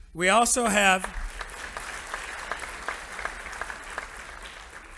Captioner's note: audience applauding